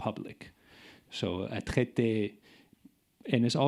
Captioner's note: speaking in French